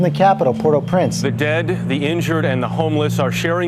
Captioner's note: voiceover